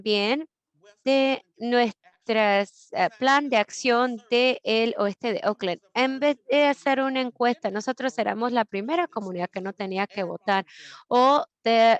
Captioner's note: Spanish